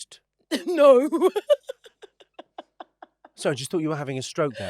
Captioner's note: laughs